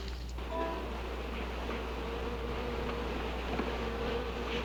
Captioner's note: buzzing